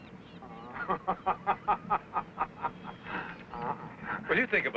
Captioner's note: Michael laughing